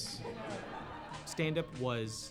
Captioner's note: audience laughs